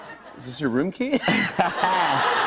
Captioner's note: laughter